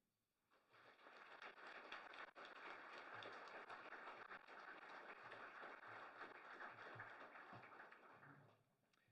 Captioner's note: applause